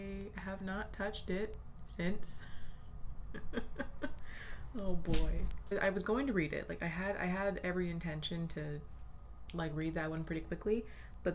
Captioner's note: laughs